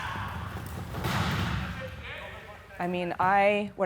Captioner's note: chairs crashing